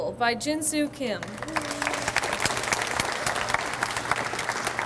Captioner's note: audience applauds